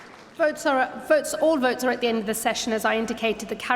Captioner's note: applause